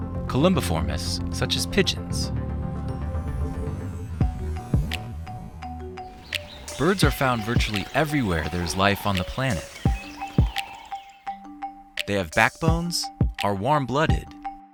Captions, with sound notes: Columbiformes, such as pigeons. (bright music) Birds are found virtually everywhere there's life on the planet. (bright music) (birds chirping) They have backbones, are warm-blooded,